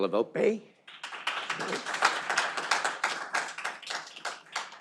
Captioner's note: audience applauding